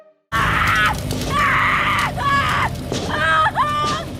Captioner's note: Eleven screaming